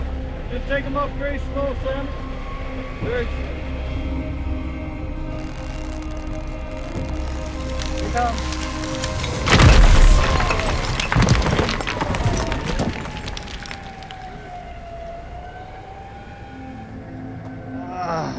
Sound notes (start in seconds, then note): 9.5 rocks crashing